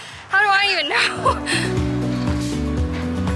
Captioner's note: laughs